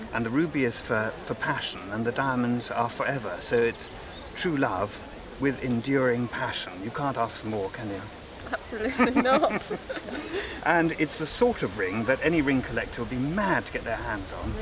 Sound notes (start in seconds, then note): 8.4 they laugh